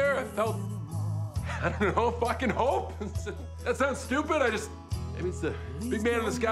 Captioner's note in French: chuckles